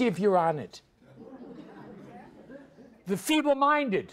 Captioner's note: audience laughs